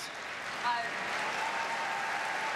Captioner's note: applause